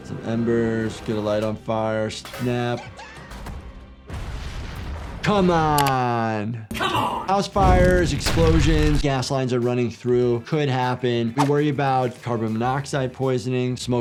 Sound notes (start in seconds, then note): 4.0 house exploding